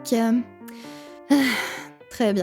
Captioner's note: sigh